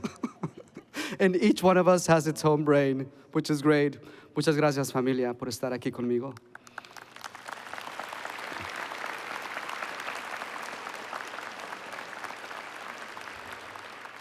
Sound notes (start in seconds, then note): 5.1 foreign Language; 6.3 applause